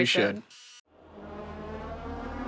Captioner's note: screen hissing; tense music